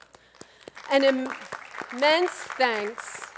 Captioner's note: attendees clapping